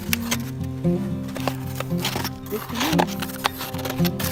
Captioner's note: snow crushes